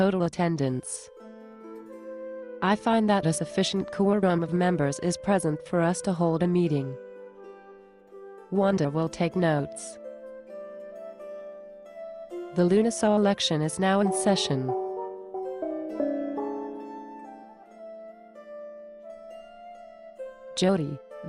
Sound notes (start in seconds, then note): 13.8 gong noise